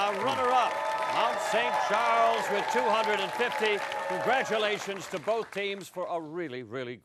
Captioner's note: cheering and applause